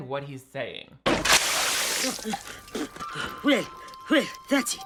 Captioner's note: water splashing